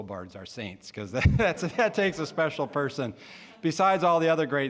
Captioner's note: all laughing